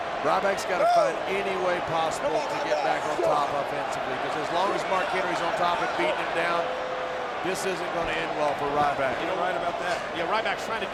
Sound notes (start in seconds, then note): none